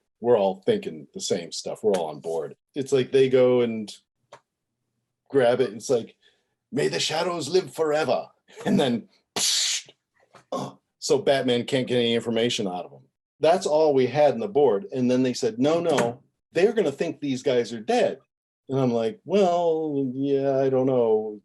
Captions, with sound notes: We're all thinkin' the same stuff, we're all on board. It's like they go and-- grab it and it's like, "May the Shadows live forever!" and then: "UGH!" [ mimics toxic gas release ] So, Batman can't get any information out of 'em. That's all we had in the board and then they said, "No, no... They're gonna think these guys are dead!" And I'm like, "Well, yeah, I dunno..."